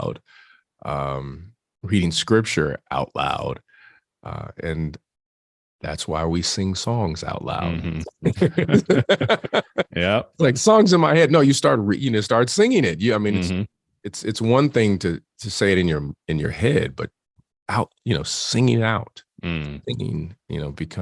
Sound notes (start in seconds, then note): 7.6 both laugh